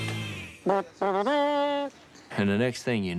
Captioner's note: imitates trumpet